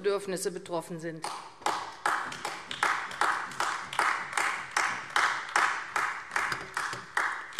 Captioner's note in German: Beifall AfD